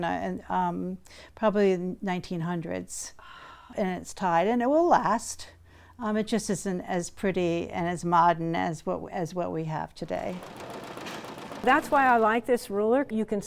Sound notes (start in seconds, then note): 10.2 machine whirring